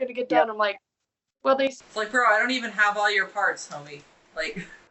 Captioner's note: laughs